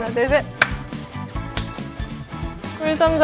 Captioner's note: clap